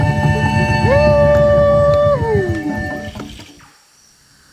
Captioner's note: cheering